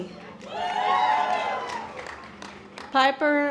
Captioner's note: audience applause